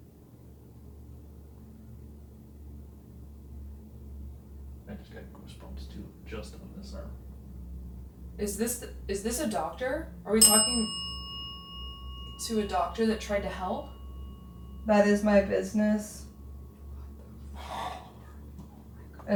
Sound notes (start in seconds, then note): 10.4 bell dings